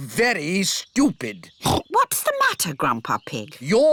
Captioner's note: oinks